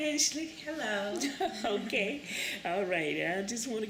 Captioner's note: laughter